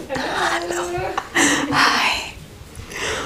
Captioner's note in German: flüsternd